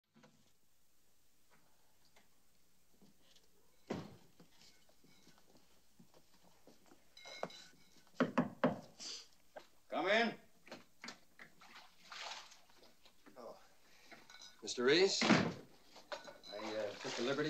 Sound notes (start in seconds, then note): 8.2 knocking